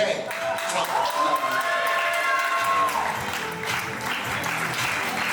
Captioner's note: audience applauding